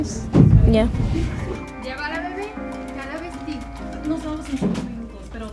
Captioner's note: actors speaking foreign language